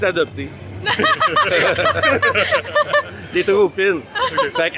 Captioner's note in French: rires